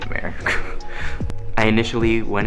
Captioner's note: laughs